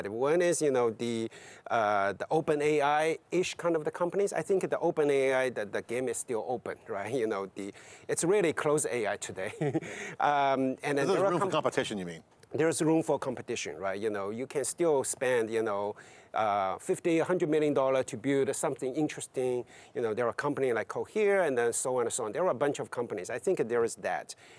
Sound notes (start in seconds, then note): 9.5 laughs